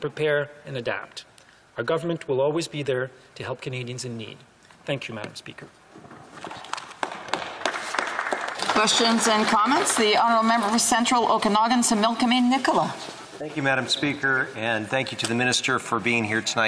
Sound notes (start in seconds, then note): 9.0 some Applause